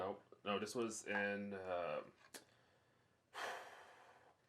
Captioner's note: exhales